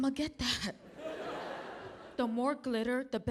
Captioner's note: audience laughing